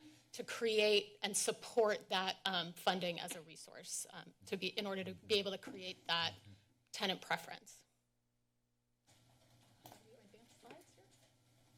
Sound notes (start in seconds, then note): 7.9 pause